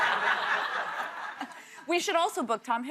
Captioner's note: laughter